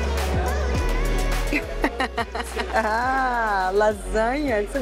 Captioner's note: laughs